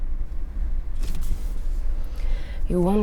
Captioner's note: car engine revving